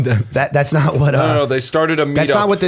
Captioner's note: chuckle